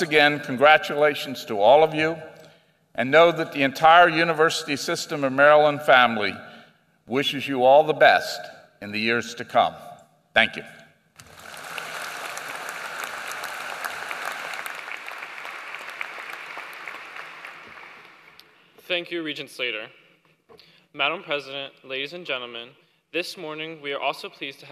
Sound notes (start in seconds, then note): 11.2 applause